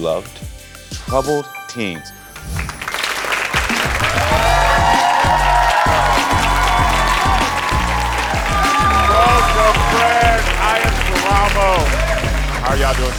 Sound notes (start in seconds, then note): 2.3 audience applauding and cheering